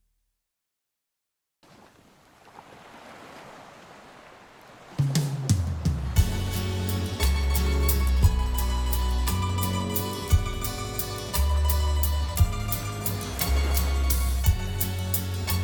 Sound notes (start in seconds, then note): 1.7 waves crashing; 5.5 calm music